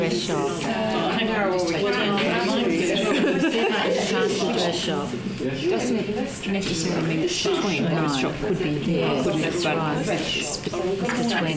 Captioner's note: audience chatter